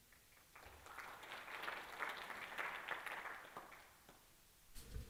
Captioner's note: applause